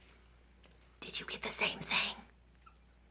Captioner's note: mock whispers